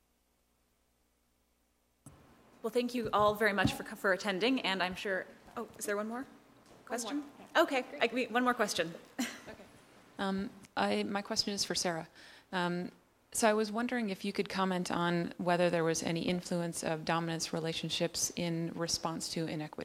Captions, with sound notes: >> Well thank you all very much for, for attending and I'm sure, oh is there one more question? Okay, like we, one more question. [LAUGH] >> Okay >> I, my question is for Sarah. So I was wondering if you could comment on whether there was any influence of dominance relationships in response to inequity?